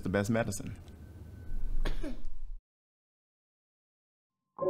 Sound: Sean coughing; somber music

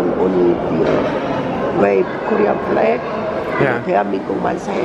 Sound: speaking foreign language

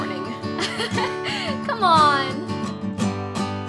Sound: Alicia laughs

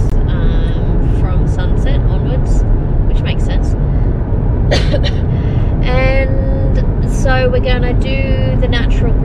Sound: coughs

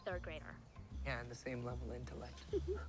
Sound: Gurveer laughing

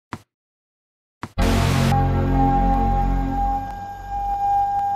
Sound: buffer symbol bounces softly; computer start up tone drones softly; dissonant synth music

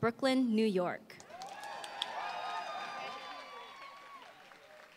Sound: applause

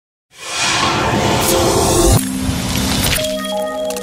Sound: whooshing sounds

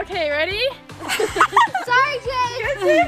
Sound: laughing

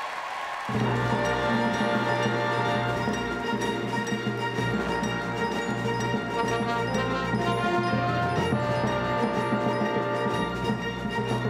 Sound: applause

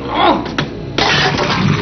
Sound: bang, sparks

